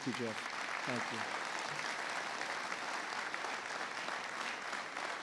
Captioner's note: applause